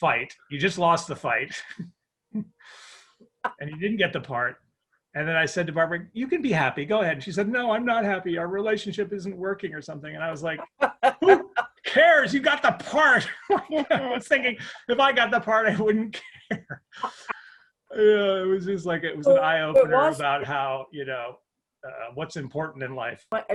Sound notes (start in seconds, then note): 10.4 laughs; 16.1 laughs